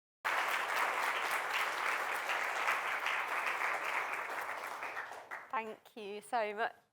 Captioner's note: applause